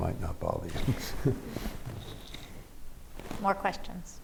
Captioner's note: chuckles